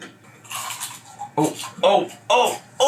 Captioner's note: chicken crunching; jaw clicking